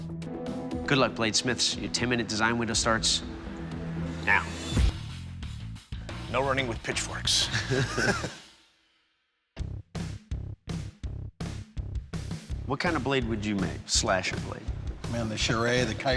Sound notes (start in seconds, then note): 7.4 both laugh